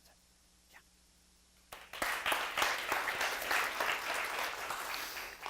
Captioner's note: applause